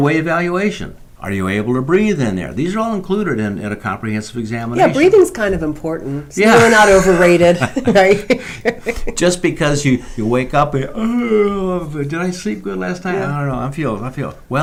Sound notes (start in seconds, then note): 6.4 laughs; 10.9 yawns